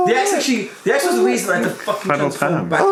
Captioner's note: murmurs